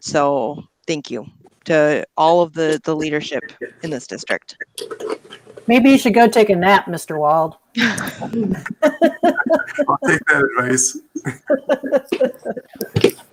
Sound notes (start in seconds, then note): 7.8 laughs